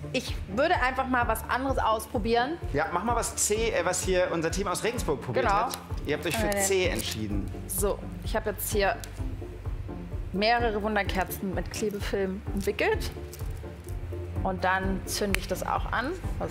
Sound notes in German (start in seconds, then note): none